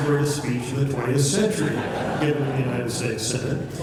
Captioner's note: laughter